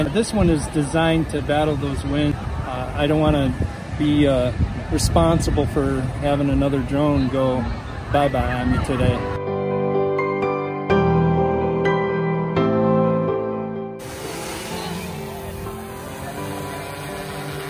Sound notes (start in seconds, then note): 9.7 piano Music; 14.0 drone Whirring